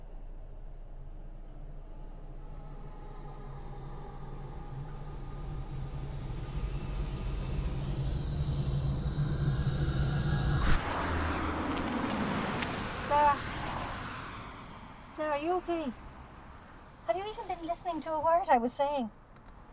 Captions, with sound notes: [Droning feedback] [Car drives by] Sarah? Sarah, are you ok? Have you even been listening to a word I was saying?